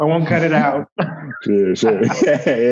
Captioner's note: laughter